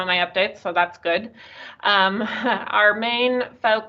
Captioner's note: chuckles